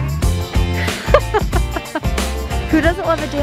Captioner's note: laughing